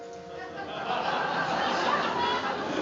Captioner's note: laughter